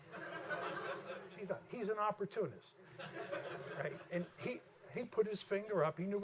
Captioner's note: laughter